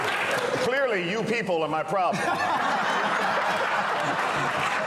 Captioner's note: laughter